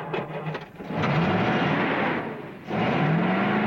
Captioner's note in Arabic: دورات المحرك